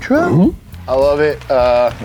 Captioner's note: awes